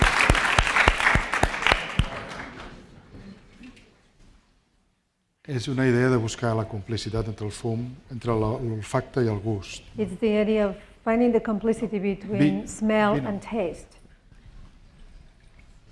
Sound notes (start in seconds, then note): 6.1 speaking spanish